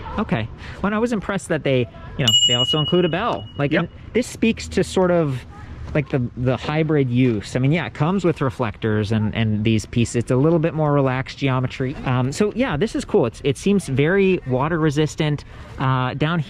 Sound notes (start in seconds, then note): 2.2 bell pining